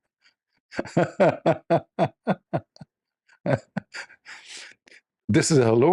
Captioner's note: Ketawa